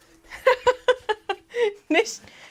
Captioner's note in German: Gelächter